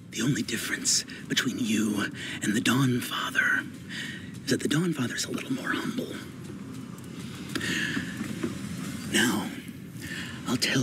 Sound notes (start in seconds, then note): none